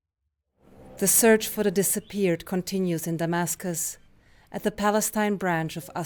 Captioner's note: voice-over